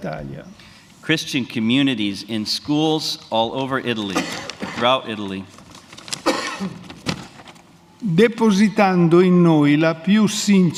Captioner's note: speaks in Italian; speaks in Italian